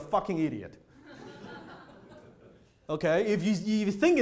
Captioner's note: audience laughter